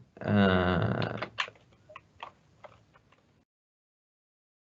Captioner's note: keyboard clicking